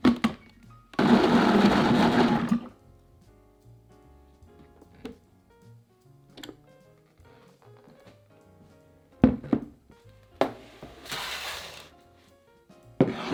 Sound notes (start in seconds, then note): 1.0 blender running